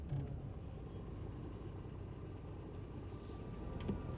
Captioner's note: brakes squeal